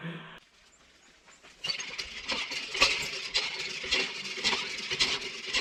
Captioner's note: water pump rattling